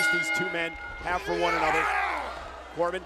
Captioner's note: Corbin yelling